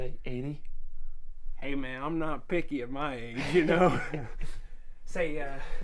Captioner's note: laughs